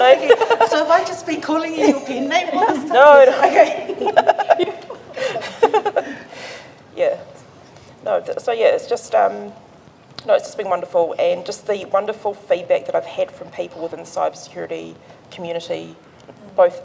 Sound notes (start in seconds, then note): 4.2 both laugh